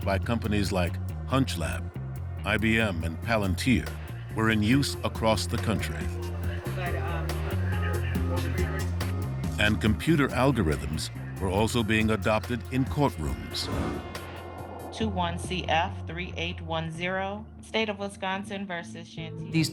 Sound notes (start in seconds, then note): 6.5 radios running in background